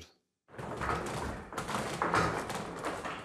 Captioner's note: rattling